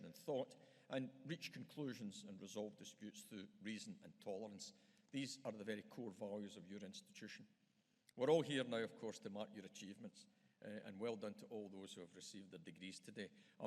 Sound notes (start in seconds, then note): none